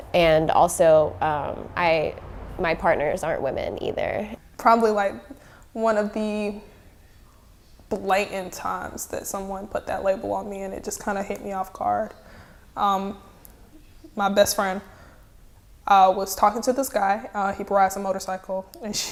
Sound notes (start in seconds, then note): none